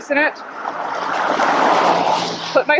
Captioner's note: vehicle passing